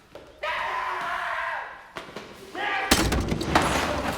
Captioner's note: screams